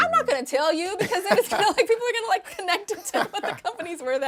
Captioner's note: laughing